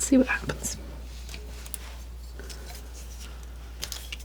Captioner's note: scratching